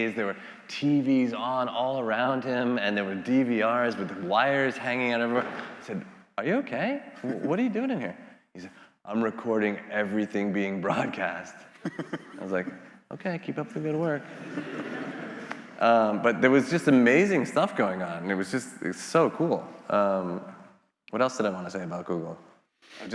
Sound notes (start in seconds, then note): 7.2 laughing; 11.8 laughing; 14.0 attendees laughing